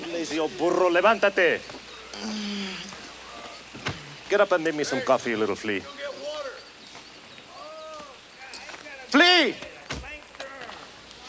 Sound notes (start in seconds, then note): 1.2 speaks Spanish; 2.1 Crecencio groans; 9.8 foot thuds